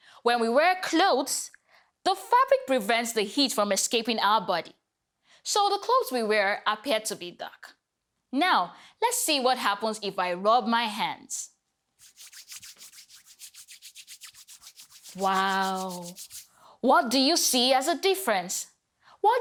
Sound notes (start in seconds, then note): 12.0 rubbing hands